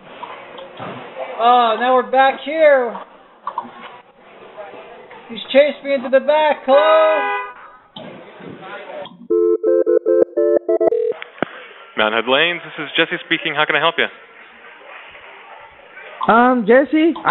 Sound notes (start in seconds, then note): 7.9 horn honking; 9.3 phone ringing